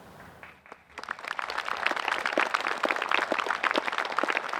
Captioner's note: crowd clapping